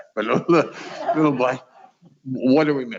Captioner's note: chuckles